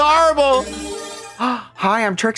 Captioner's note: bright chime